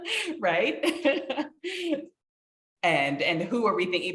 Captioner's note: laughing